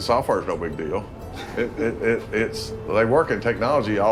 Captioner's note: men laugh